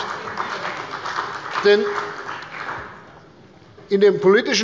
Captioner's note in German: Beifall bei Abgeordneten der CDU und der SPD